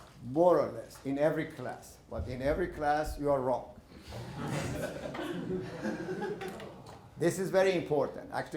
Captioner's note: laughter